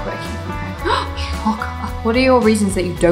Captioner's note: gasp